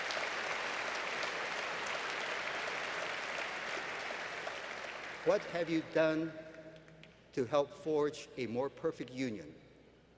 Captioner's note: applause